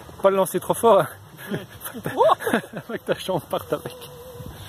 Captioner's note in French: rire